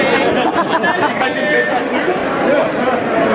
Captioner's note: crowd Laughs